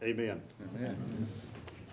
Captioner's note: crowd